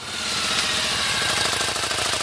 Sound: engine noise

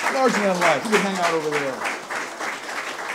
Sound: audience applause; talking off microphone

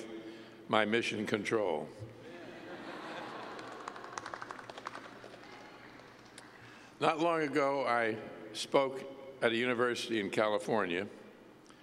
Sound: laughter

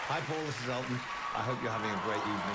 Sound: cheering, applause

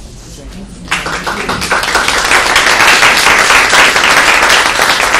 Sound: applause

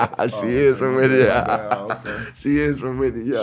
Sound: laughing

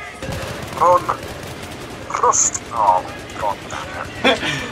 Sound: chuckles; sighs

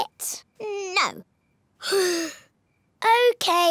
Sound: sighs

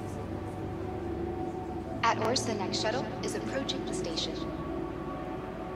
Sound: on the radio

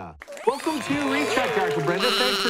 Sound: audience applause

